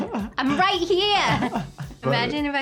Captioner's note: laughs